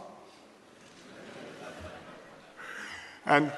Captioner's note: laughter